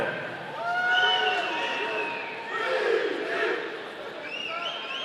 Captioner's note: audience cheering